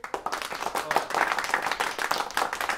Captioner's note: applause